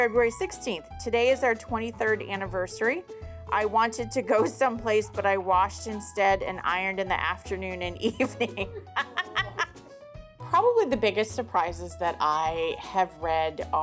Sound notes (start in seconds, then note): 8.1 laughs